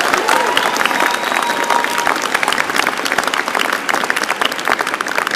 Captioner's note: applause